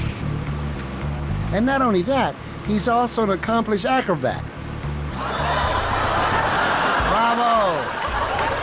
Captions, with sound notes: And not only that, he's also an accomplished acrobat. (audience laughs) Bravo.